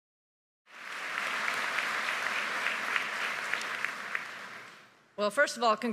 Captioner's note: audience applauding